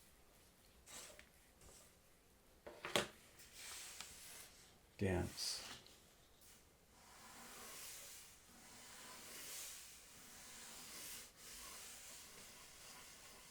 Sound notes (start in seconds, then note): 7.0 pencil scratching